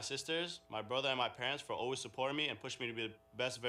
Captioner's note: speaking spanish